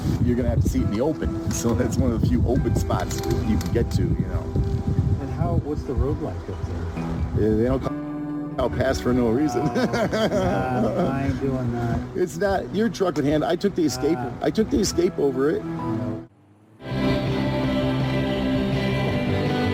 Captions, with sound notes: you're gonna have to see it in the open. So that's one of the few open spots you can get to. - And what's the road like up there? - I'll pass for no reason. (laughs) - Don't mind doing that. - It's not, your trucking hand. I took the escape. I took the escape over it. (lively music)